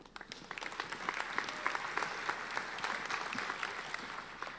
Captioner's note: applauding